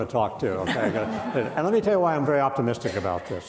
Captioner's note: audience laughing